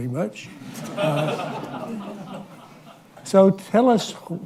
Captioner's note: laughter